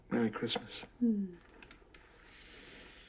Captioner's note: kiss